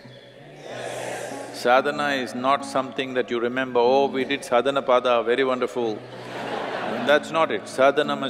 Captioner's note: laughter